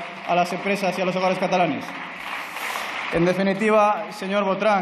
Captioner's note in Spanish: Aplausos